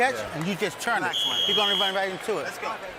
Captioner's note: whistle blowing